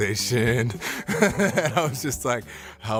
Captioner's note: laughs